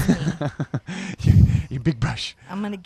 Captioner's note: laughs